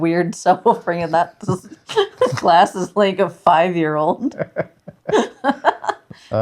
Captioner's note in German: lacht